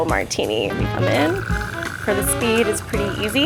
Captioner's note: spirits trickling